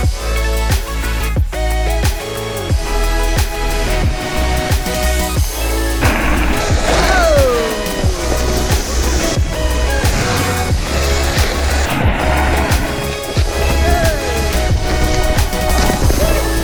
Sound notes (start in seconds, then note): 6.2 shouting